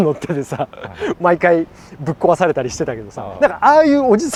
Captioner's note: laughs